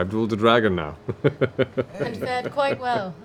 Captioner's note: laughs